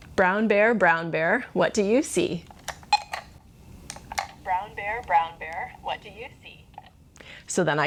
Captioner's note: recording repeats